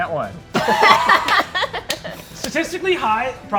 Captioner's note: players laughing